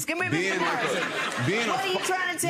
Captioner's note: audience laughing